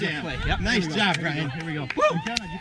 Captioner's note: cheers